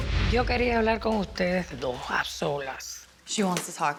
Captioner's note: speaks Spanish